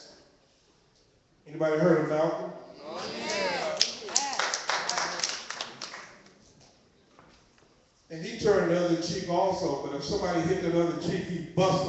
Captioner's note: clapping